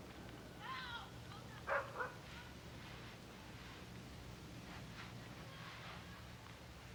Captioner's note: kids shouting; dog barking